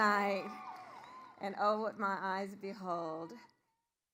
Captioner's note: applause